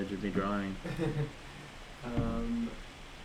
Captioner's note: laughs